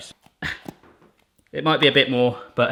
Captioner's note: grunts